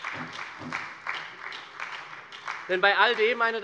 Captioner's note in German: Beifall bei der SPD